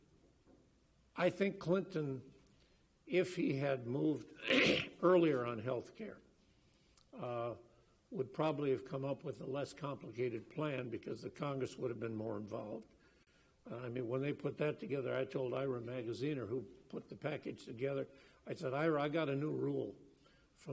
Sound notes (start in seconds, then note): 4.4 coughs